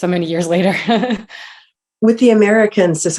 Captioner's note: chuckles